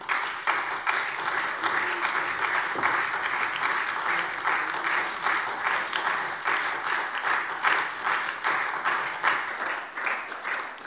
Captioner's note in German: Beifall SPD und DIE LINKE